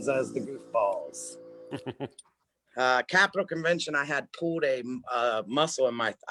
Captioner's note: chuckles